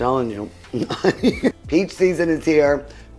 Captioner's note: laughs